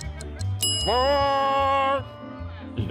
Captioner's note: watch ticking; bell rings